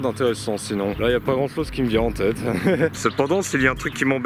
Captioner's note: laughs